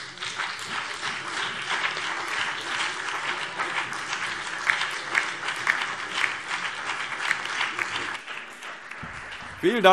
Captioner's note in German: Beifall BÜNDNIS 90/DIE GRÜNEN, DIE LINKE und vereinzelt CDU